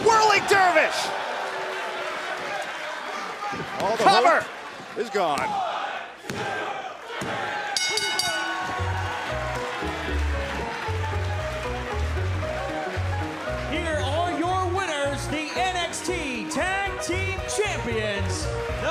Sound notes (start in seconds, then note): 2.6 cheers & applause; 7.7 bell; 9.0 cheers & applause